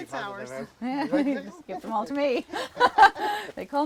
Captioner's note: laughs